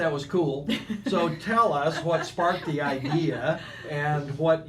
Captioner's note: laughing